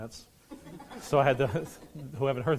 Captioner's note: laughing